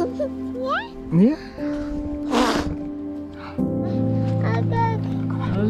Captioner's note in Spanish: hablando holandés